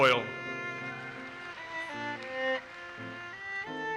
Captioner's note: audience applauses